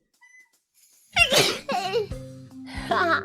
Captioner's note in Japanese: くしゃみ